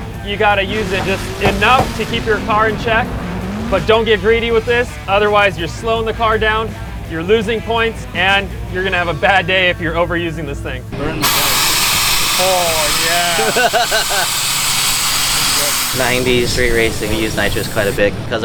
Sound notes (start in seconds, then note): 11.2 air cylinder hisses; 13.0 man laughs